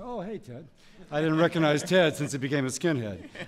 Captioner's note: laughter